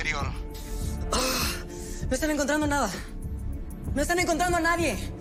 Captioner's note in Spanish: Gruñido